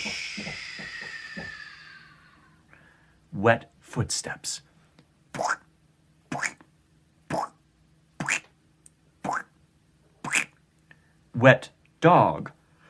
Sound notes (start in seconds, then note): 5.7 imitating squelching feet